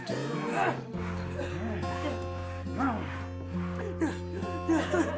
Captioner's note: assailants grunting; whimpers